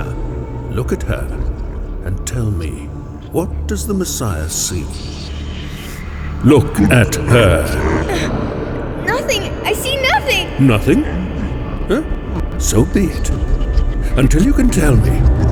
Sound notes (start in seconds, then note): 6.9 wincing; 7.6 void-like echoes and nightmarish distortion of voices